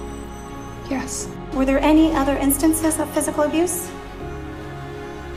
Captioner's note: voiceover